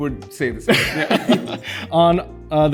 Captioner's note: both laugh